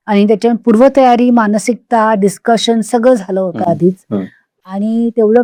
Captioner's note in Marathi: घसा साफ करणे